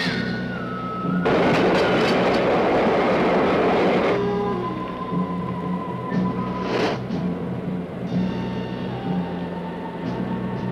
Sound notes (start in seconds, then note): 1.1 train rumbling